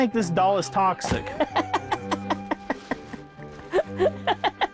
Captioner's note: laughing